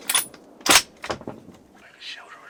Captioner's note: whispering